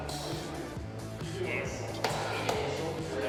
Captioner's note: claps